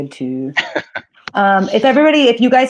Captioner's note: laughs